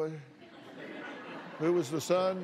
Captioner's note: laughter